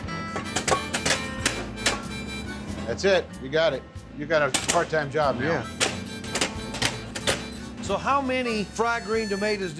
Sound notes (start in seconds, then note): 0.4 chopping sound; 5.8 chopping sound